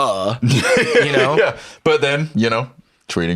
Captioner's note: laughs